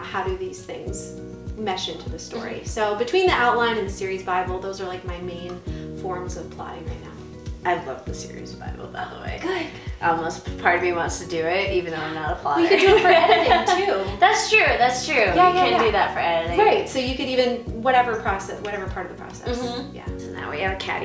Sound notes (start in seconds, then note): 12.6 laughing